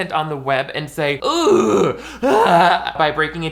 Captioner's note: groaning in disgust